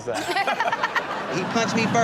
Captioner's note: Chanel laughs